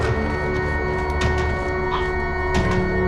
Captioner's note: Andrew chokes